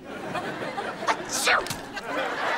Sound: sneezing

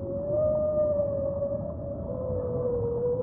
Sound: plaintive whale moan

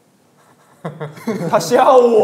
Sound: haha

